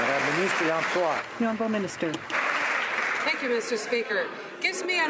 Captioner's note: some Applause